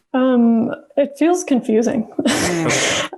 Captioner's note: laughs